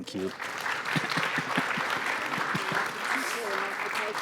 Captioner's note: audience applauds